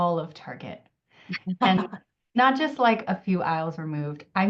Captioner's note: laughs